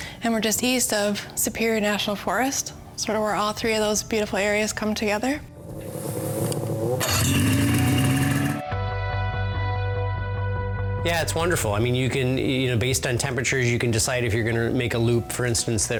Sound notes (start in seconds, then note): 5.6 engine revving; 9.0 mellow music